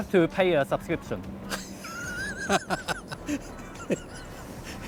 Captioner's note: laughs